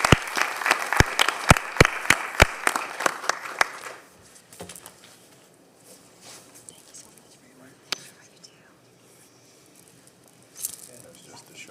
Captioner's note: applause